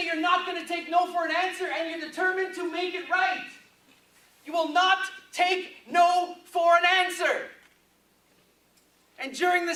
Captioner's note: none